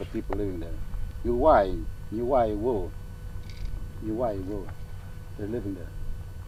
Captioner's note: speaking in native language